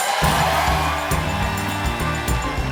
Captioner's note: cheers and applause